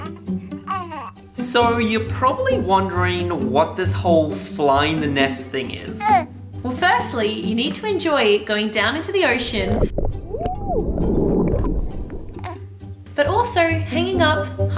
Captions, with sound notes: - So, you're probably wondering what this whole 'Flying the Nest' thing is. - Well, firstly, you need to enjoy going down to the ocean... (underwater sounds) ... but also hanging up,